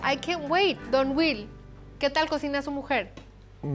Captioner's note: speaking Spanish